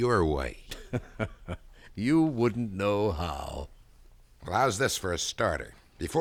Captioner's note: laughs